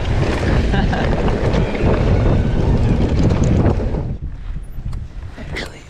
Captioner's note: bike thumps; laughs